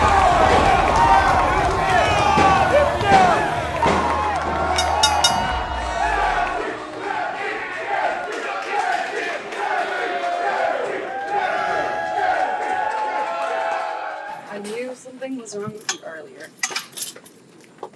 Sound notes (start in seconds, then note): 6.0 Crowd cheering Jesse, Jesse, Jesse ever so loudly; 12.6 Crowd continues to cheer for Jesse